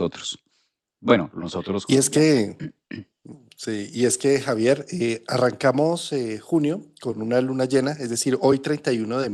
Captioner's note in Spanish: carraspeo